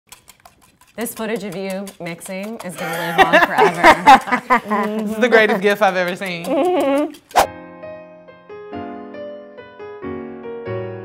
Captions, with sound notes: - This footage of you mixing is gonna live on forever. (laughing) - This is the greatest gift I've ever seen. (slow music)